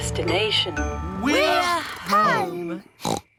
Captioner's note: oinks